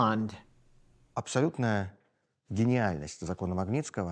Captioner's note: speaking Russian